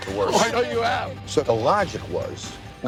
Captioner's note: laughs